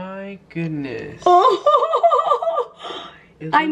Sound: chuckling excitedly

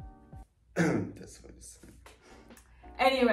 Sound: cough

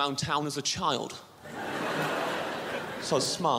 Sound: crowd laughs

